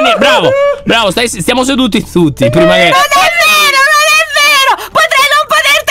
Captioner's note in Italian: piagnucola